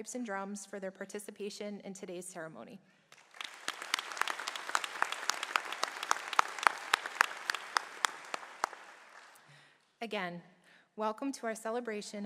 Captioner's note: applause